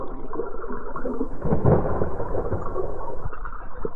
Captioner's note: thunder rumbling